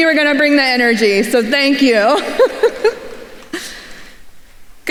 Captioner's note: laughs